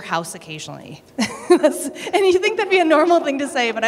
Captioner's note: laughter